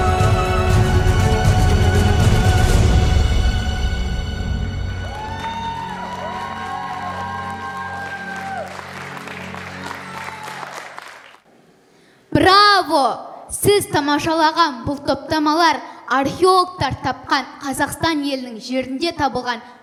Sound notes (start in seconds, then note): 5.0 applause